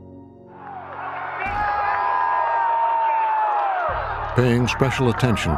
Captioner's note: crowd cheering on video